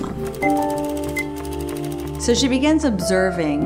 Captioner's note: cash register beeps